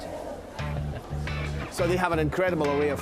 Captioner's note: funky rock music; both chuckling